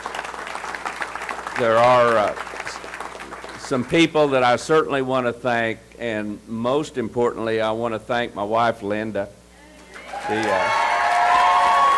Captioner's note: applause